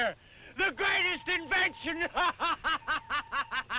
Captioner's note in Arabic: يضحك